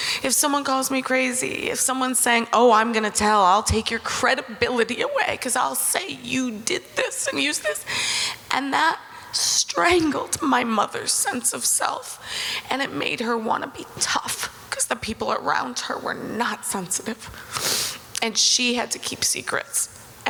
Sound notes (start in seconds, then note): none